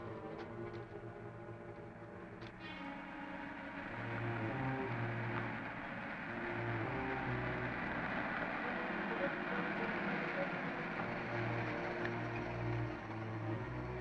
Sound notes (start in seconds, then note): 1.9 engine rumbling